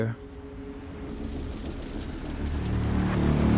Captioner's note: sounds of flames